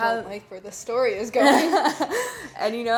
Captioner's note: laughing